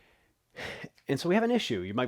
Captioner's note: exhales deeply